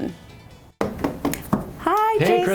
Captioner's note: knocking